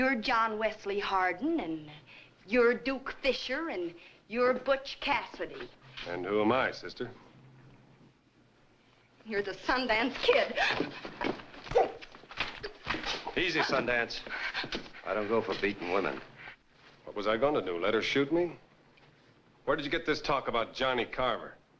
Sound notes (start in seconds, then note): 10.7 gasps